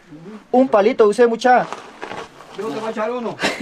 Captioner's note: in Spanish